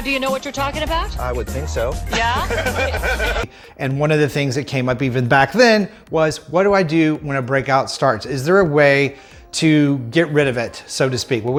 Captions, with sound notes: - Now do you know what you're talkin' about? - I would think so. - Yeah? (laughing) - And one of the things that came up, even back then, was what do I do when a breakout starts. Is there a way to get rid of it, so to speak?